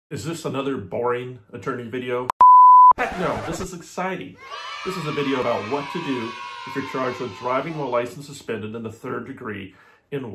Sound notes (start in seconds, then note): 2.3 beep; 4.3 children cheering